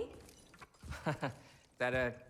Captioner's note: laughs